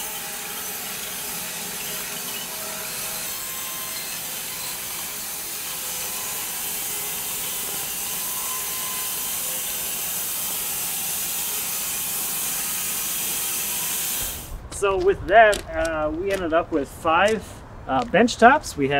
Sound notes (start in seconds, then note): 10.8 machine sawing